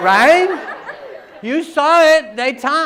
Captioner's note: laughter